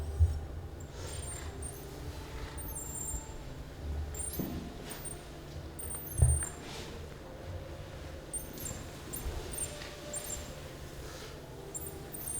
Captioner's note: digital Clicking